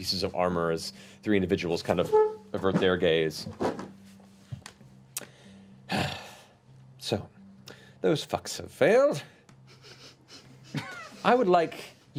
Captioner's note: sighs